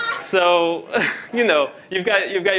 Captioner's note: laughter